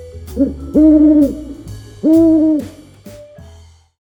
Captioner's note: owl hooting